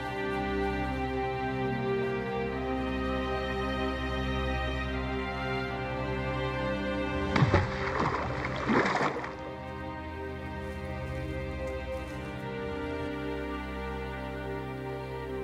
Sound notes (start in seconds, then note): 7.1 water splashing